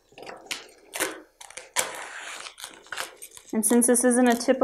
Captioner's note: cutting